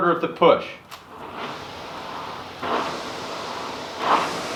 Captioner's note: machine noises